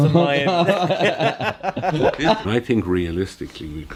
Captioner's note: laughter